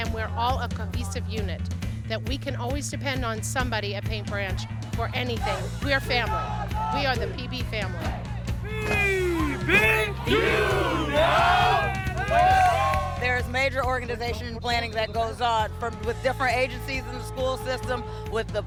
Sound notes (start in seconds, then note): 9.1 chanting; 11.4 cheering